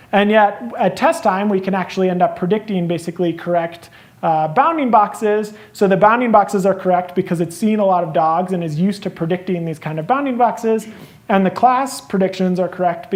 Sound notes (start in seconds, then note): none